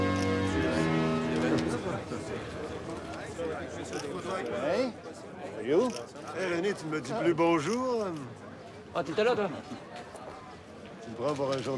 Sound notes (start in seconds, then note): 0.1 door shuts; 0.1 people chatter indistinctly; 6.8 Pierre speaks in French; 9.4 Rene speaks in French